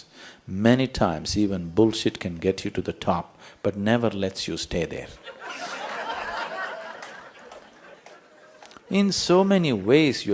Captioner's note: ضحك